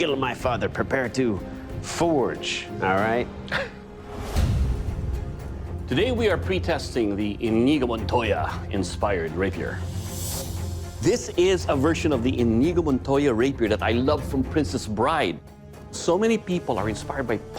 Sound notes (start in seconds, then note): 3.4 chuckles